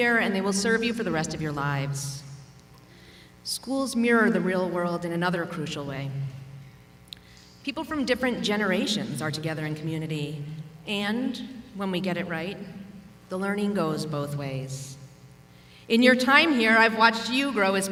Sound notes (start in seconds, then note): none